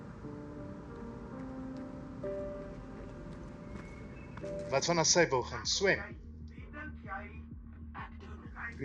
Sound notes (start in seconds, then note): 0.6 footsteps approaching